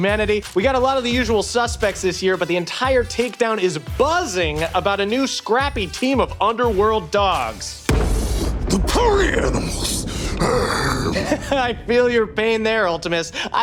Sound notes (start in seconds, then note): 7.9 thunder booms; 10.1 growls